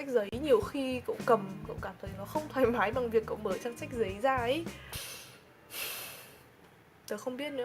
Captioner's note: heavy sigh